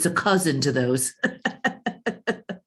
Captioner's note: chuckles